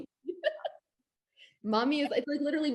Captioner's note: laughs